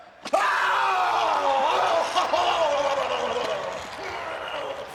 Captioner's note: Guerrero yelling and vocalizing